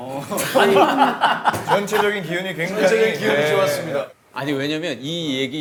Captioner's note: suddenly campaign speech tone